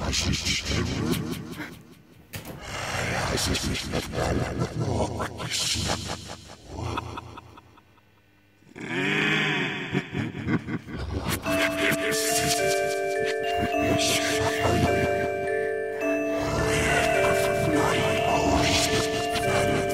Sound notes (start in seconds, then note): 11.3 eerie chime music; 11.7 distorted voice